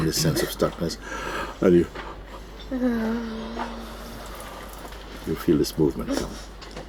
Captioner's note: yawns